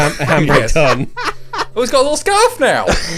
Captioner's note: laughing